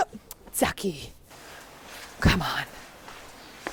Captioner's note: speaking Japanese